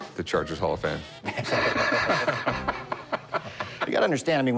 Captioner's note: laughter